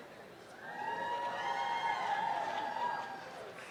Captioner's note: applause and cheering